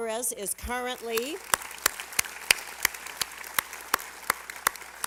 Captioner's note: applause